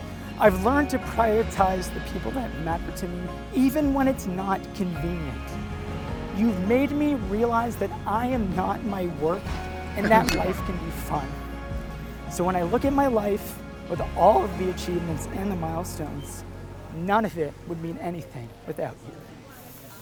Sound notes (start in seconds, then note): 2.4 voice breaking